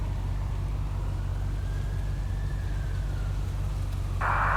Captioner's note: distant siren wailing